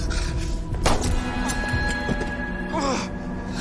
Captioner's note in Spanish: Disparo